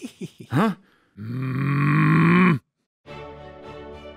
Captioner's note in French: grognant; Ricaner